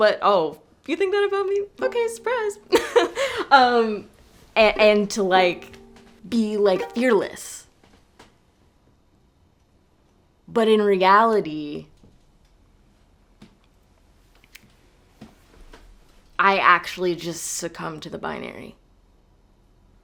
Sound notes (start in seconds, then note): 2.7 laughing